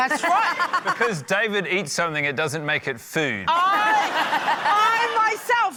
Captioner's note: laughter